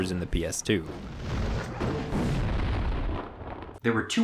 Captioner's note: bomb blasting